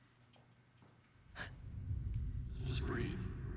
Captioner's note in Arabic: شهقات